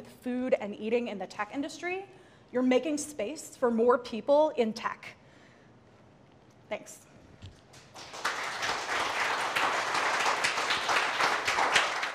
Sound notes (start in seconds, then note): 7.7 audience applauds